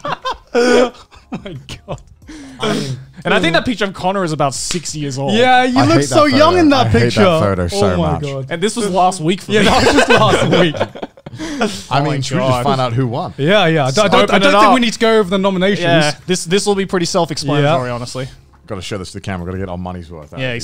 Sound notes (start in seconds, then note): 0.0 laugh; 9.5 laughs